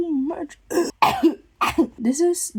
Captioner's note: cough and clears throat